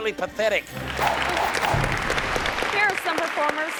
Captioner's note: audience clapping; screen whooshes